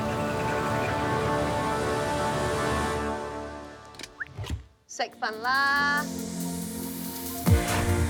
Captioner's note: birds chitter